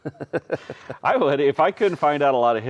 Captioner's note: laughing